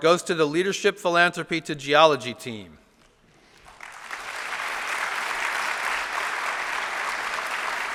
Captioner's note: applause